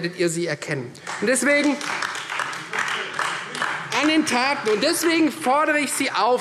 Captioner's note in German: Beifall Freie Demokraten und DIE LINKE